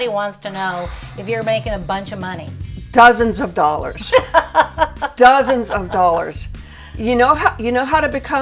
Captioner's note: giggle